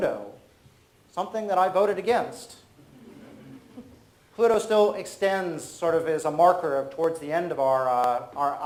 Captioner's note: audience laughs